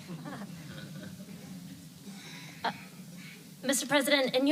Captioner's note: laughter